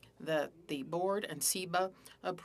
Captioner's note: speaking French